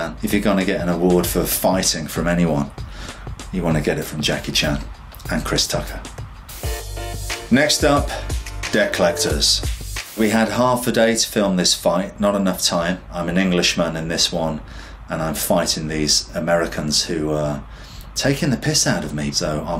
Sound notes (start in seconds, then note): 6.6 upbeat instrumental music; 7.8 air whooshes